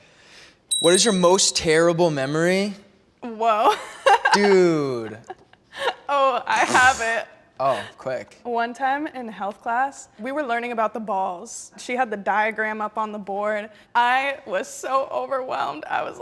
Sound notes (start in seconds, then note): 3.7 laughs